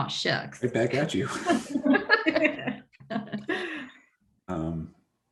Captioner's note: group laughing